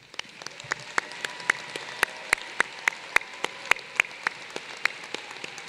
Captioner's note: applause